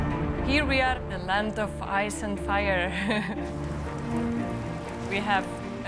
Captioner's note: laughs